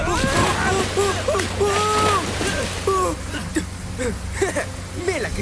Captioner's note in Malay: menjerit, ketawa